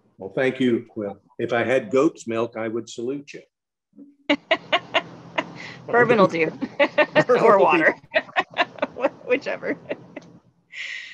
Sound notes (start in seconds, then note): 8.4 laughing